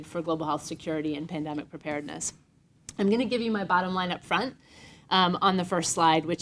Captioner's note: none